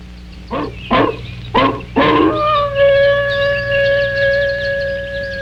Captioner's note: dog barking and howling